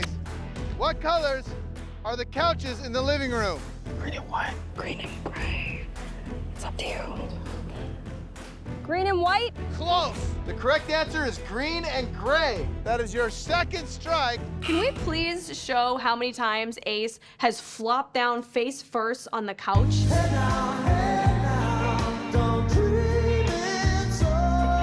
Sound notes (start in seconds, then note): 13.4 buzzer sounds